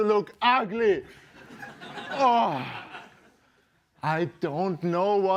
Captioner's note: laughter